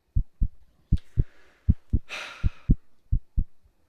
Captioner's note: heart beats